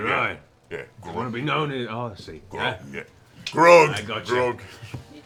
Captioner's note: clicks tongue